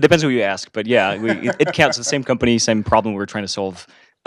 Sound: laugh

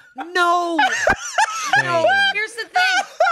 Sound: laughs

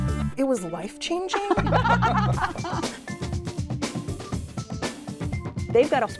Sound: laughter

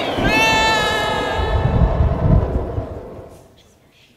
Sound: screaming

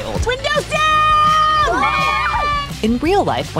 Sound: kids cheering

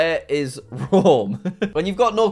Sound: laughs

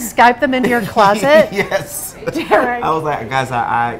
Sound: laughing

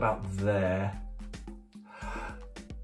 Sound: takes a deep breath

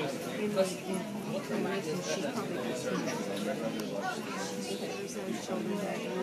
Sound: people talking, airport noises

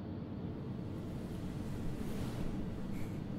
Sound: bed sheets rustling

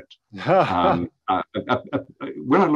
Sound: laughs

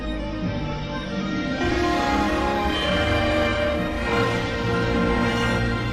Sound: remastered chime plays

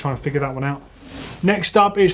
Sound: gear whirs

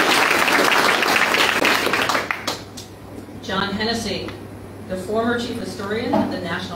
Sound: applause

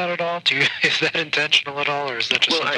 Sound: chuckles

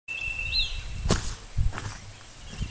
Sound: footsteps

